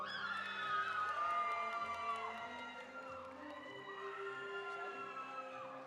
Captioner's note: audience applauding; audience cheering